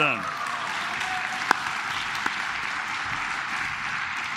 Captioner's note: claps